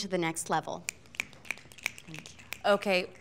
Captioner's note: fingers snapping